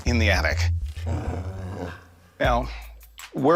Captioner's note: dog growls